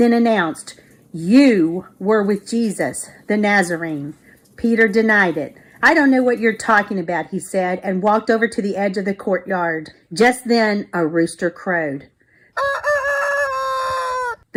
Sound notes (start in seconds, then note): 12.5 rooster crowing